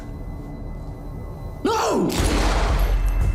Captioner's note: gunshot